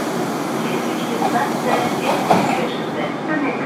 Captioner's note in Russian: закрытие дверей